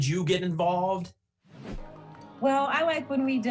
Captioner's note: whoosh